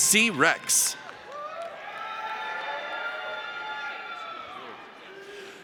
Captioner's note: audience cheers